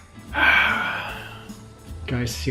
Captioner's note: sighs